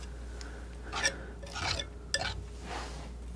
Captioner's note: scraping